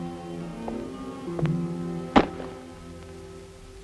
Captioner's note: dramatic music; bangs; dramatic music